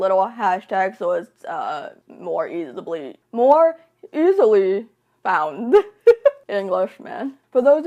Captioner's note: laughs